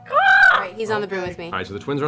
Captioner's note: eagle sound